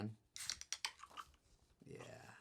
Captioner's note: soda can opening